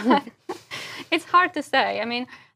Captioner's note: laugh